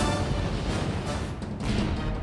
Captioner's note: fighter jets roar through sky; explosions